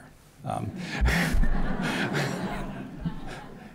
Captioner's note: laughter